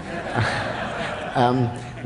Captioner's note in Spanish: Risas